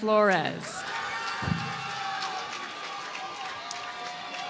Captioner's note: applause